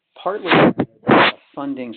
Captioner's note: sliding static